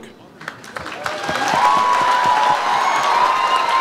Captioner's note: audience applauds